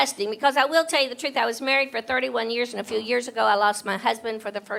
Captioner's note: none